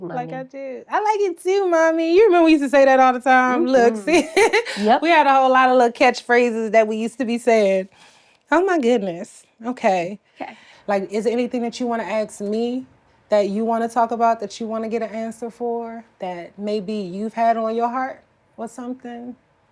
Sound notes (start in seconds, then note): 4.0 laughs